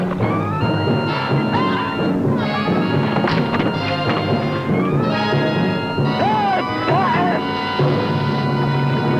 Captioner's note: roaring; screaming